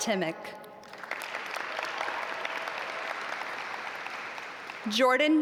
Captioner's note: audience applaud